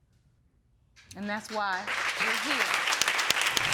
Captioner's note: audience applauding